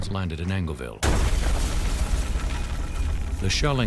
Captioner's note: loud explosion